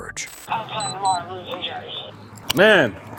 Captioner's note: radio chatter